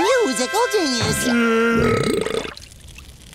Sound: belching

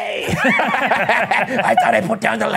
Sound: both laugh

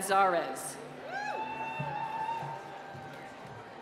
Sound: cheering

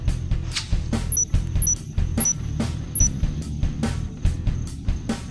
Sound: beeps

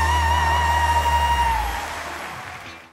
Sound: audience applause

